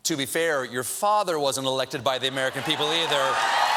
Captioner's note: cheers and applause